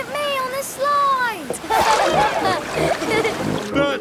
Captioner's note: laughing